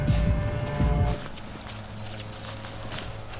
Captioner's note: footsteps on leaves; sound of a leaf blower in the distance